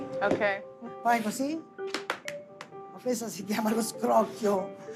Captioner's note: speaking Italian